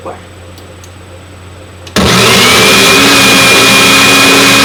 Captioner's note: blender